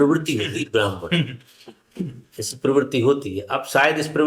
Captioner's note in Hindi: गला साफ़ करने की आवाज़